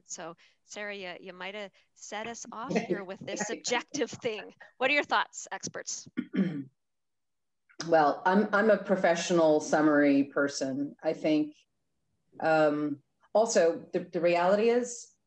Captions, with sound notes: So, Sarah, you might set us off in here with this objective thing. What are your thoughts experts? - (clears throat) Well, I'm a professional summary person. I think, also the reality is